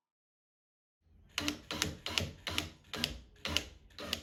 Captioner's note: power drill whirls